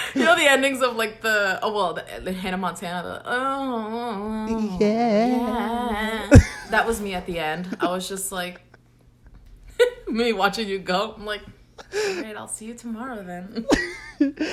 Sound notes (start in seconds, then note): 0.0 both laugh; 0.0 laughs; 3.8 hums